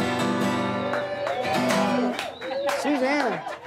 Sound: applause

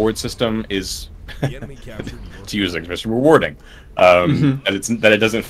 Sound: chuckles

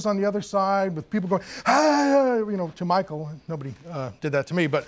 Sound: yells excitedly

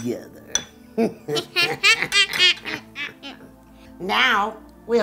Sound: evil laugh

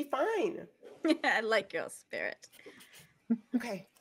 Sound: chuckles

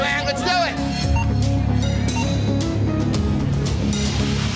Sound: timer beeping

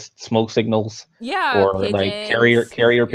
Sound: laughs

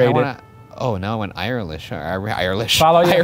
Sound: laughs

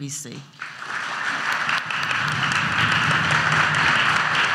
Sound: audience applauds

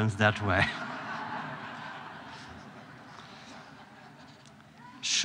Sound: laughter

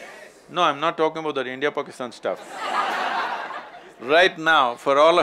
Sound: laughter

